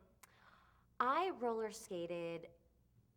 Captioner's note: butler takes a breath